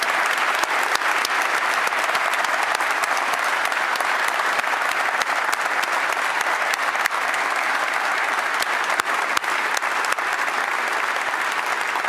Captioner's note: applause